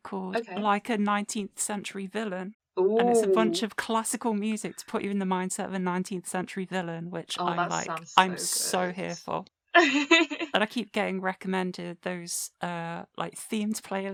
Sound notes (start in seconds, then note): 7.5 giggling